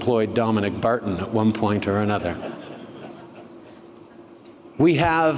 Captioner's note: laughter